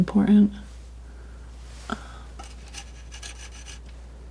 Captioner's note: tapping